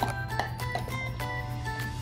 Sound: chewing noises

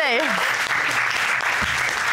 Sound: laughs; audience applauds

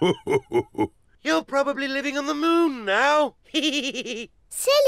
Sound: laughs; chuckles

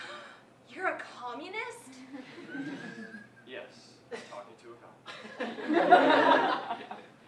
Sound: gasp

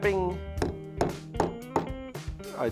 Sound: hammering sounds

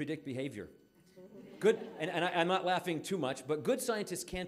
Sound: audience laughing

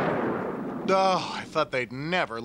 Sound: <i>groans

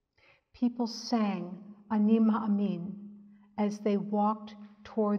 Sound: speaks in Hebrew

